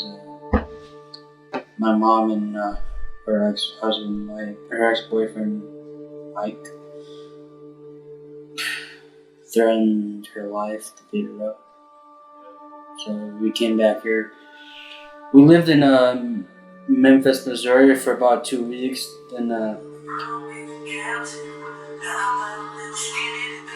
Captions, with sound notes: 'Cause my mom and her ex-husband, her ex-boyfriend, Mike, (sighing) threatened her life to beat her up, so we came back here. We lived in Memphis, Missouri for about two weeks. (upbeat music)